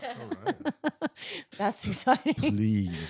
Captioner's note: laughing